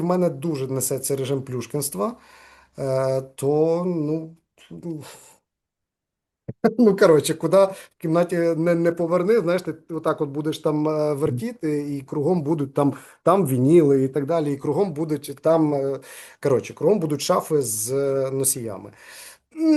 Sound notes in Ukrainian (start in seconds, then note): 6.7 сміється